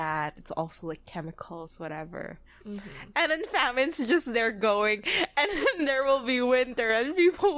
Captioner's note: laughing